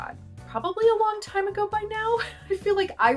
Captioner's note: laughter